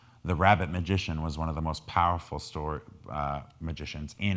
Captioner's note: none